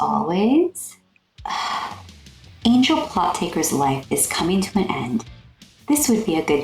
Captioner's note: exhale